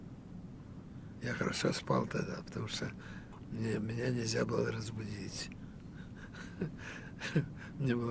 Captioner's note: laughing